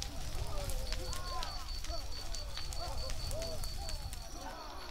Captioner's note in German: Feuer und Rittergeräusche